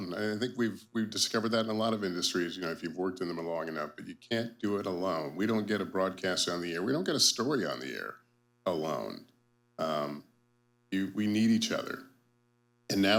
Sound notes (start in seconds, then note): none